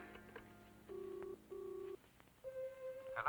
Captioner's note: line ringing